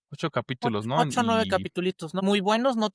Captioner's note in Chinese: 非英文